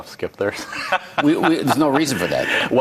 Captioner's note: laughing